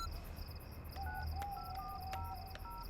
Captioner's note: phone beeping